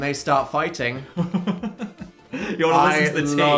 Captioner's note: laughing